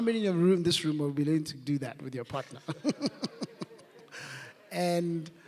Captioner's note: laughs